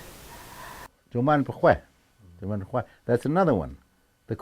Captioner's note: speaking in foreign language